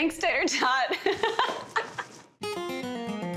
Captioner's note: both laughing